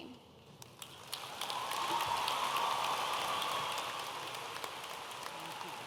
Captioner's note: audience applauding and cheering